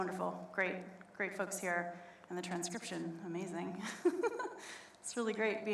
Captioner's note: laughs